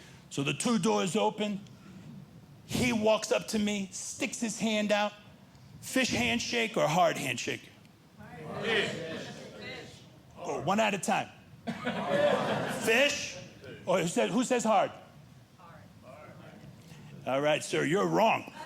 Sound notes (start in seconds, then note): 11.6 overlapping chatter